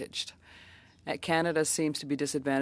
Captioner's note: speaking French